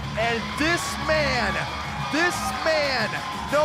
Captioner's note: crowd cheering